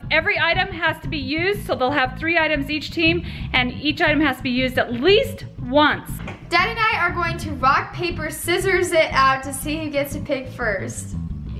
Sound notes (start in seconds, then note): none